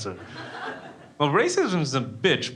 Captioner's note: crowd laughing